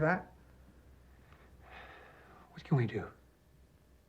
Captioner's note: sighs